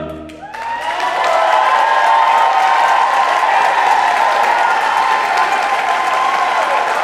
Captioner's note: audience applauding; audience cheering